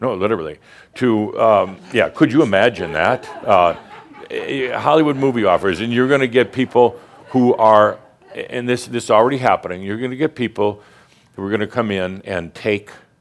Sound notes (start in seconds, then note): 1.6 some chuckles